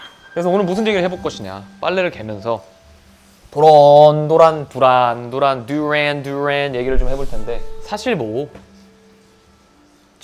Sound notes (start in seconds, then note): 4.0 chit-chatting